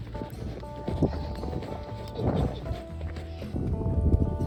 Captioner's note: laughing